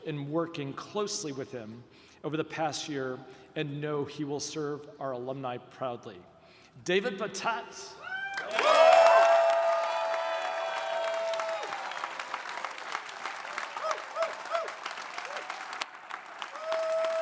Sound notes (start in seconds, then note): 8.1 audience cheering; 8.2 audience applauding; 13.7 attendee cheering